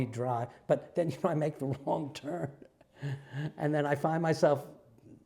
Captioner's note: laugh